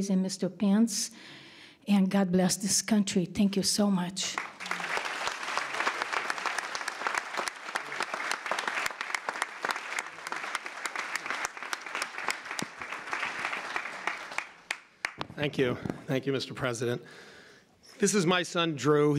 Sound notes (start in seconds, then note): 4.3 applause